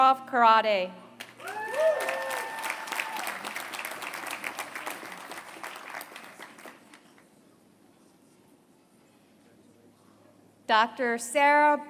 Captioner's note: applause